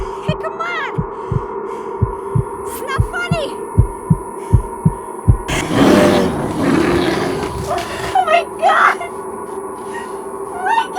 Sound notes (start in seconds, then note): 4.0 heart beating